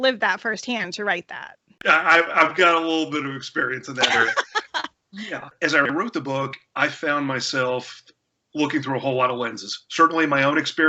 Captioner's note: laughter